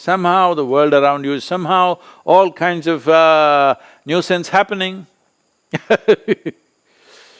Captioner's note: laughs